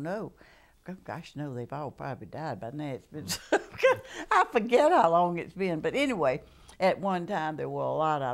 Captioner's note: laughter